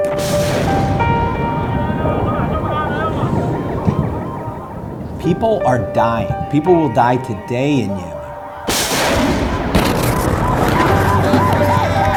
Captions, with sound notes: (loud gunfire) (somber piano music) - People are dying. People will die today in Yemen. (loud gunfire)